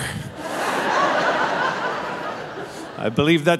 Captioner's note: audience laughing